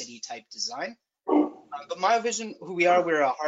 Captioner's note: dog barking